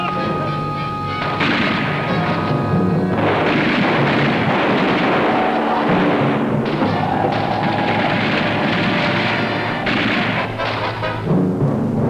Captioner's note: gun shots